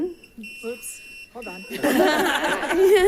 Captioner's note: device buzzing; attendants laughing